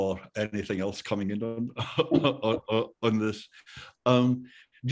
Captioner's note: laughter